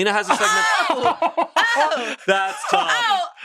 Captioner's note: laughs